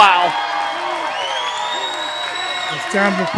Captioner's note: audience cheering